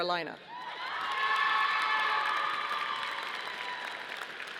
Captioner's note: audience applauding